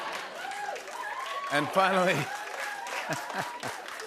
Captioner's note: cheers and applause